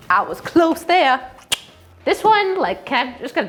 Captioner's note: clicking tongue